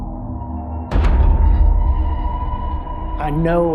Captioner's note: door slamming